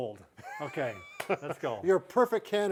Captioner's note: chuckles